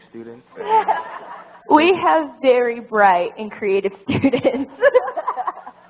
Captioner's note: laugh; laugh